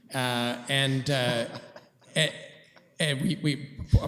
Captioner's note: laughter